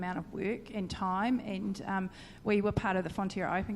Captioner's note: none